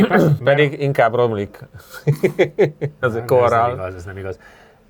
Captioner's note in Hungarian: nevetés